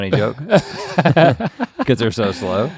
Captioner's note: both chuckle